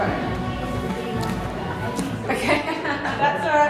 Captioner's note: laughter